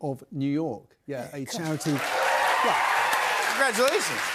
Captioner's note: cheers and applause